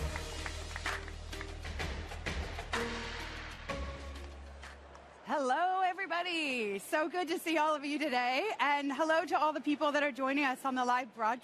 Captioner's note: applause